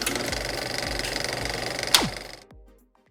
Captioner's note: film reel winding